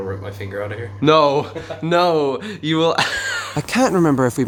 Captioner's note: bass slide noise; laughter